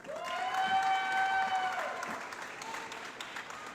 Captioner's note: applause